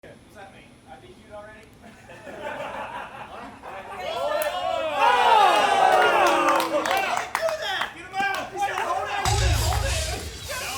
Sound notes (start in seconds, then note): 1.9 players laughing; 4.0 players shouting and cheering